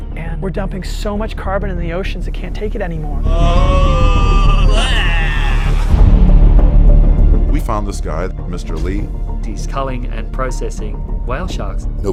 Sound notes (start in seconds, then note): 3.2 both groaning